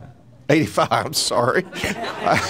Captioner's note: laughs